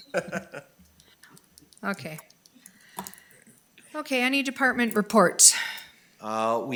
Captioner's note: laughs